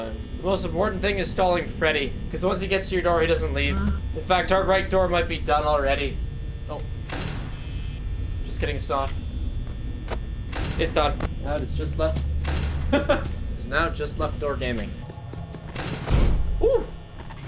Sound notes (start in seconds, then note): 12.8 laughs